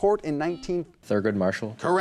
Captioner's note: buzzer